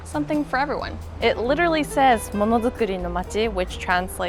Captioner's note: speaks in foreign language